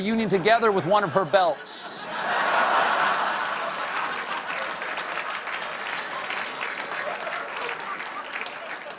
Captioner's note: applause; laughter